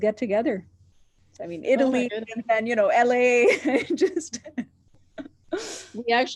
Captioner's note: laughing